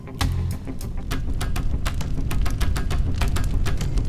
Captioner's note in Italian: Crepitio del fuoco